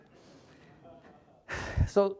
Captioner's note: audience chuckles